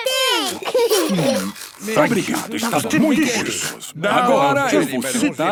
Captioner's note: laughing, crunching